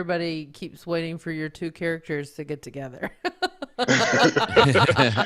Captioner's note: all laughing; laughing